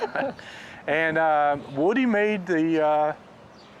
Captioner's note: laughs